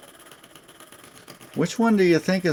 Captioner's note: sawing sounds